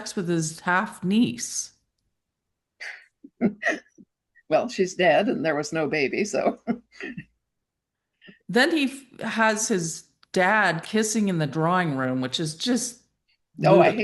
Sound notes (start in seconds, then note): 2.9 blows out, shrugs, chuckles; 7.3 chuckles